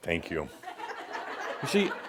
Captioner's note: laughter